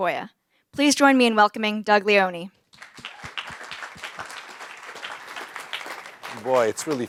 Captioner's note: applause